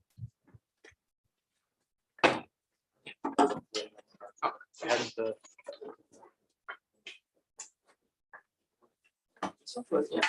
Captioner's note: background chatter